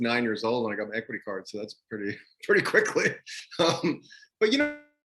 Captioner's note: laughing